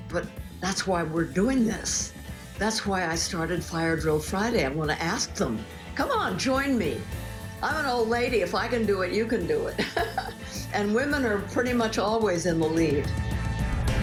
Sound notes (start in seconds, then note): 9.7 chuckles